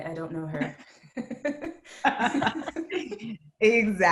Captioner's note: laughs